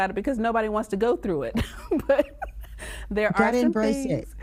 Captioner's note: chuckling